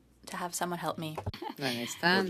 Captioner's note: speaking French